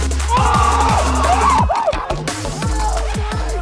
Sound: cheers

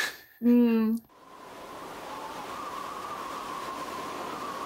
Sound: wind whistling

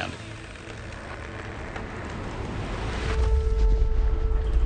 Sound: chainsaw buzzing

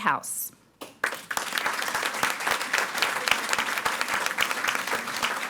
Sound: audience applauding

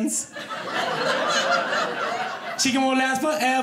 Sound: audience laughing

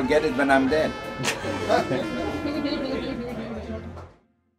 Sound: chuckles

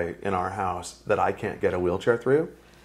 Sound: none

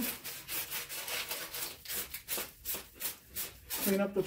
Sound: sandpaper scratching

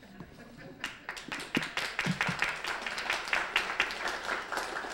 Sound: applause

